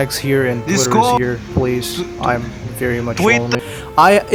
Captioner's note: sarcasm